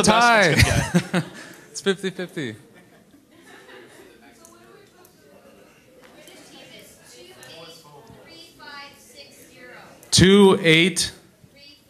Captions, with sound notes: - It's a tie, it's 50-50. - [Voiceover] The British Team is 283560. - 28?